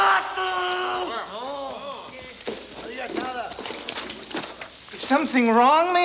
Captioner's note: Bruto yells in Spanish; gang members murmur